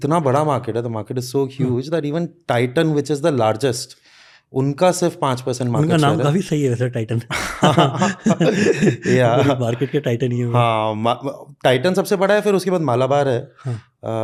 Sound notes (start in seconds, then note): 5.3 speaks in Hindi; 7.3 chuckles; 7.8 speaks in Hindi